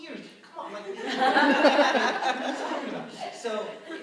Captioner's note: laughter